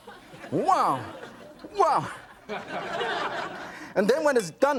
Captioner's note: audience laughs